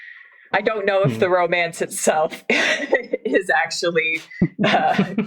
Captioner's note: laughs